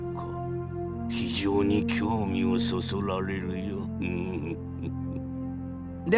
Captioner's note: evil chuckle